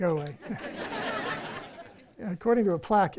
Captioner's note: audience laughs